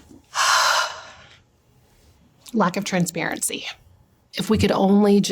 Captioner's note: sighs